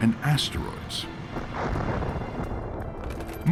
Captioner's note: rumbling explosions